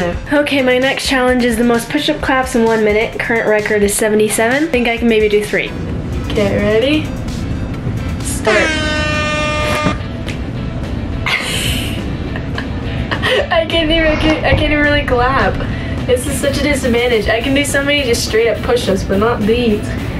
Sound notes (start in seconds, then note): 8.4 horns blaring; 11.5 laughs